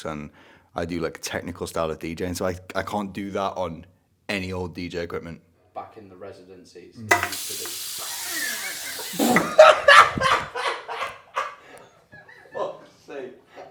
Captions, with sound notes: and I do technical style of DJing so I can't do that on any old DJ equipment. - Back in the residencies. (water gushes) (cameraman laughs) - Fuck's sake.